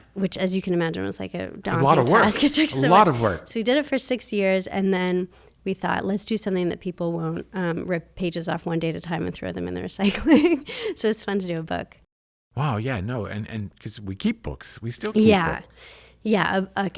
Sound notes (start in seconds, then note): 10.0 laughs